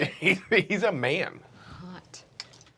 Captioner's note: laughter